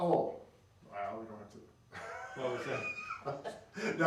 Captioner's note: laughing